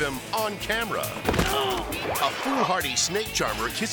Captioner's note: jumper groaning